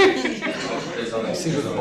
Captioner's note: laughter